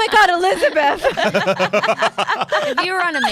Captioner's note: laughs